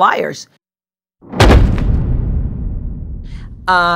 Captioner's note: slam sound effect